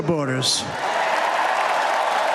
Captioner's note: applause